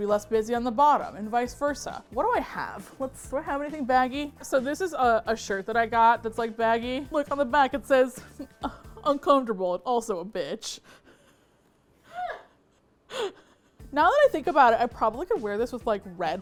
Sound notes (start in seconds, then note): 8.2 laughs; 11.5 laughs off camera